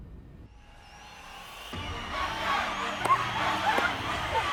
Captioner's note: audience cheer